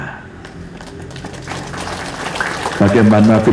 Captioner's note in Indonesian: tepuk tangan